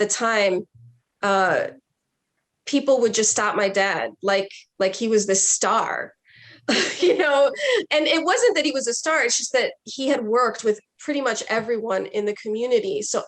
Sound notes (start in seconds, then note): 6.7 laughs